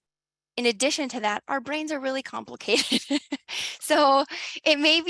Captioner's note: laughs